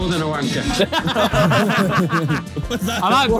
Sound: Sidemen laughing

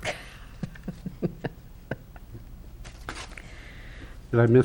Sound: laughs

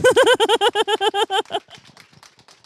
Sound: laughs

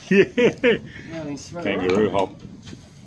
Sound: laugh

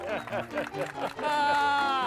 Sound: old-time piano music; audience applauding; hosts laughing

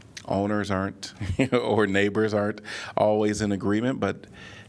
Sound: laughter

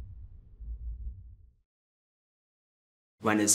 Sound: pulsating stops

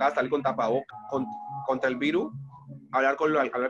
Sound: sound breaks

